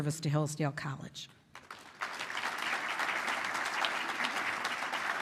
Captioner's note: applause